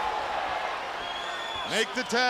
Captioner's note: crowd cheering